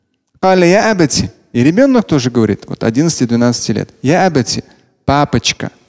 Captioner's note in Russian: Говорит на арабском; Говорит на арабском